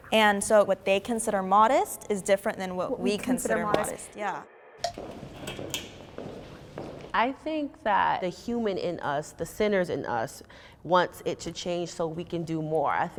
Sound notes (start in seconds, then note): 4.8 timer taps; 4.8 footsteps approaching